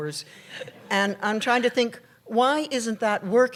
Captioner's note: laughter